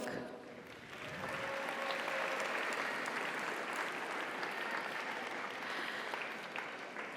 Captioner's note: audience applauds; audience cheers